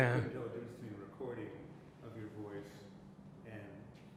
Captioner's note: none